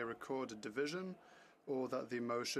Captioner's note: speaking FRENCH